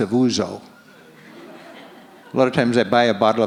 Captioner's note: audience laughs